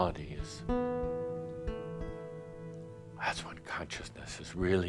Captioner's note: none